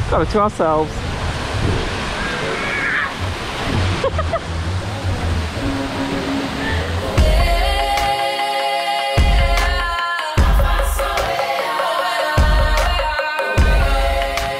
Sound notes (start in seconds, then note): 2.6 shouts; 4.0 laughs; 7.1 women sing in foreign language